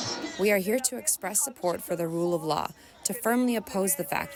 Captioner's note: through translator